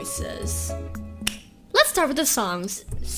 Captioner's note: clap